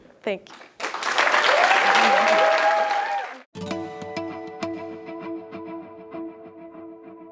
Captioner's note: applause